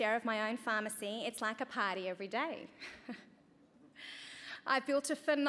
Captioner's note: chuckles